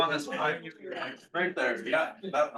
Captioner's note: attendees chattering